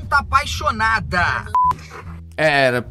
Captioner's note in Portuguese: som de bipe